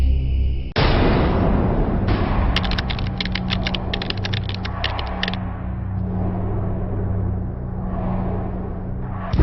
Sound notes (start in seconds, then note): 2.6 keys tapping